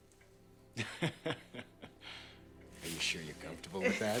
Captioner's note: Jack laughing